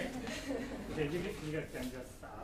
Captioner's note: laughing